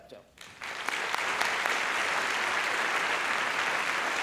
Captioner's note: applause